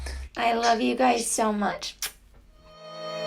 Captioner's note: smooches